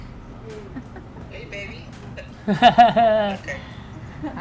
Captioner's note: laughter